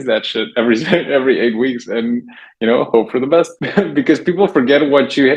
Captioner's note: laughs